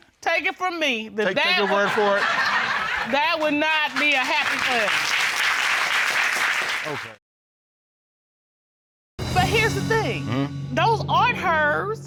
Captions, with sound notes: -Take it from me. That-- -Take your word for it? That would not be a happy thing. -[applause] -Okay. But here's the thing, those aren't hers